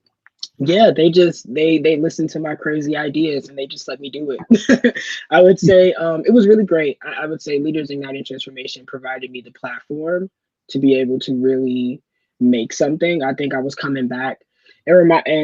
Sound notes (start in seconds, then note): 4.4 chuckling